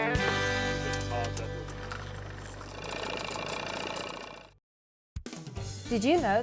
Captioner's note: upbeat music fading; engine whirring; upbeat music